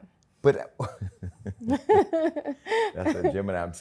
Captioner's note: laughter